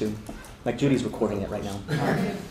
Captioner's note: laughter